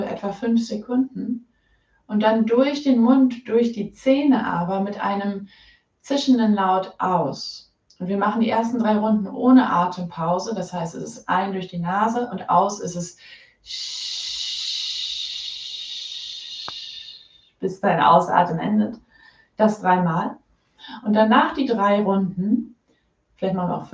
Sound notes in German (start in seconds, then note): 16.3 sssssssssshhh